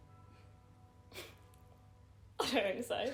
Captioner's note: chuckling